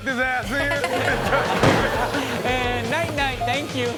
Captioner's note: audience laughs; tire pops